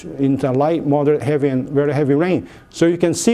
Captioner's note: none